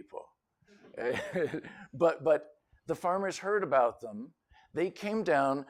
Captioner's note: laughter